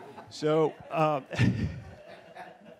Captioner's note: laughing; laughs